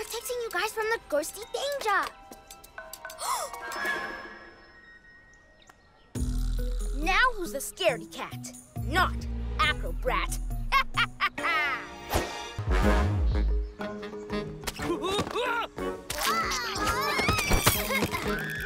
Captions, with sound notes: Protecting you from ghostie danger. (Gasps) Now who's the scaredy-cat? Not Acrobrat! (Evil laugh) (Intriguing music) (Exclamation)